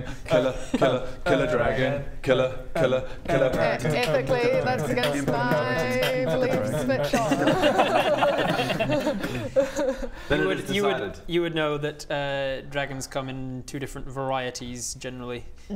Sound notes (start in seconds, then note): 6.2 beat boxing dragon rap; 7.6 laughs